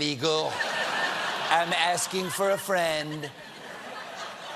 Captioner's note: laughter